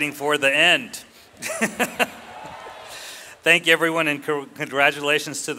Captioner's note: laughs